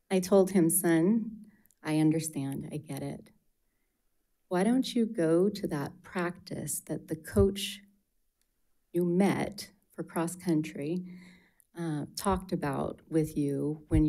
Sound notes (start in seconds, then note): none